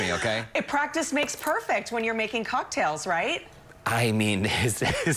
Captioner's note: laughter